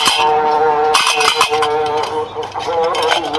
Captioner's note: large praying sound can be heard while recording